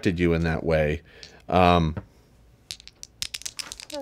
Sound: dice clatter

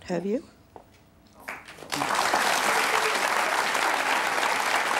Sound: applause

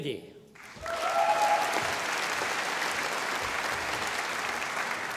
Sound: audience applauding

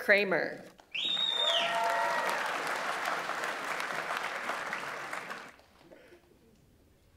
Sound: audience applauds; audience members cheer

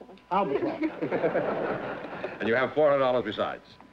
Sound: laughter

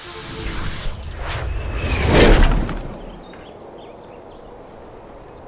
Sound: dramatic whooshing

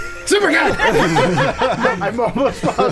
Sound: laughing

